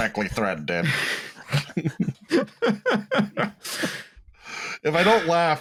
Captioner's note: laughter